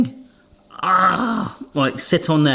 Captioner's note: groans